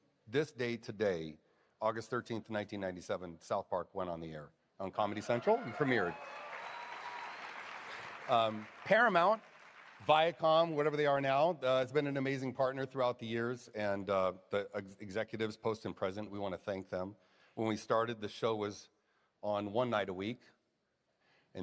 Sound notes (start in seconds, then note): 5.0 applause, cheers